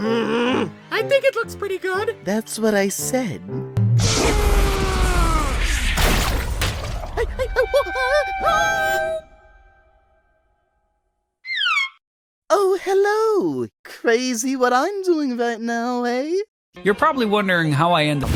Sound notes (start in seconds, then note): 0.0 grumble; 4.0 scream